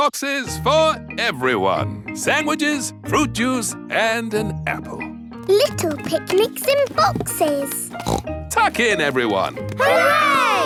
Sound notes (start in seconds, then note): 7.9 snorts